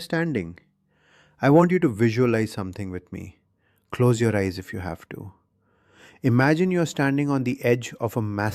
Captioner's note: whispers